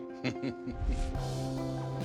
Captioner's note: chuckles